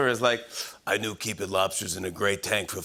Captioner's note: smoker's voice